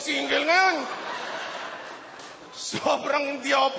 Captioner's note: laughter